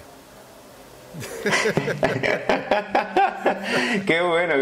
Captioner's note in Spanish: ríen